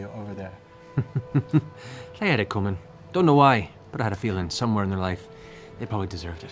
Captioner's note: laughs